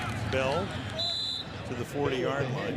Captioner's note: whistle